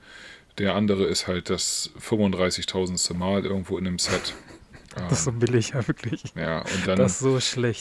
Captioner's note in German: gelächter